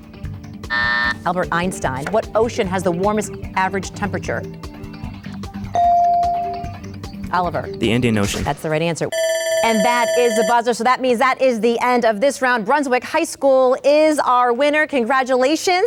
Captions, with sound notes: (bell buzzes) Albert Einstein. What ocean has the warmest average temperature? (bell dings) Oliver. - The Indian Ocean. - That's the right answer. (buzzer dings) And that is the buzzer, so that means that is the end of this round. Brunswick High School is our winner, congratulations.